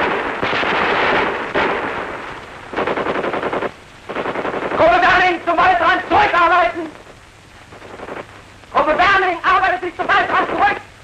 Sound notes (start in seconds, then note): 6.6 fire continues